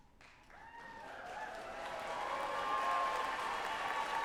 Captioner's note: audience applauding